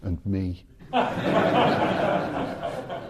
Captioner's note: audience laughing